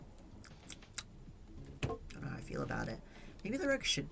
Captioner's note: smacks lips